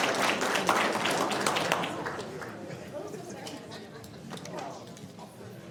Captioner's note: applause